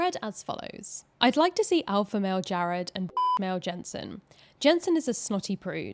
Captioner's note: beeps